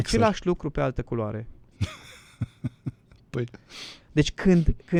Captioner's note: laughter